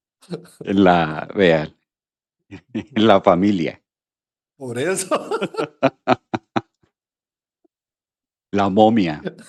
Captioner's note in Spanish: risas; risas; risas